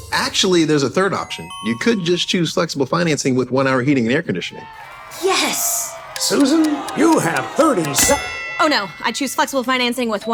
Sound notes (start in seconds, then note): 9.0 bell dinging